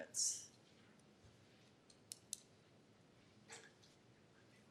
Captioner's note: clicking